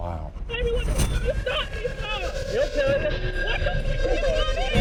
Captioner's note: woman crying